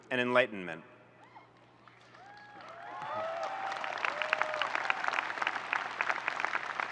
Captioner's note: audience cheering and applauding